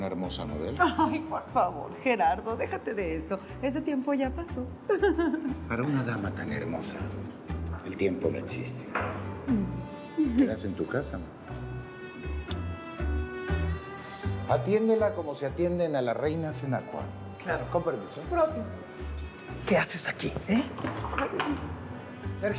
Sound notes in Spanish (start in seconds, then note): 4.8 Risas; 8.8 Ríe